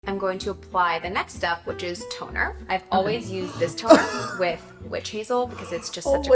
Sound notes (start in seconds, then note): 2.9 slow music; 3.0 coughing